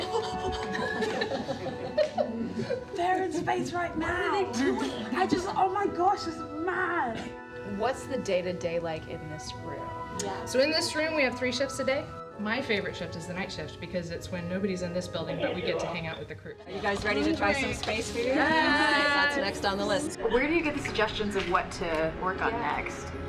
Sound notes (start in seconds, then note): 4.6 laughter